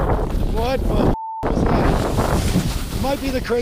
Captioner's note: beep